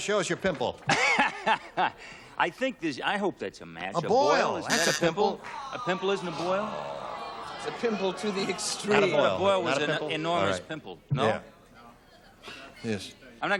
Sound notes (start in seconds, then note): 0.9 laughs